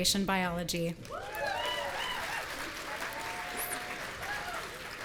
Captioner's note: audience cheering